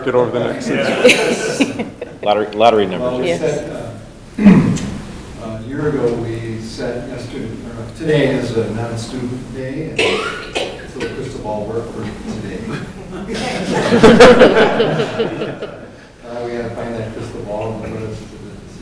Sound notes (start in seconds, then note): 12.7 laughter